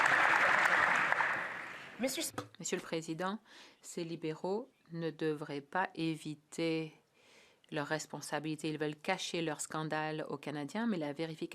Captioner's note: some Applause